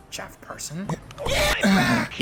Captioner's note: grunt.mp3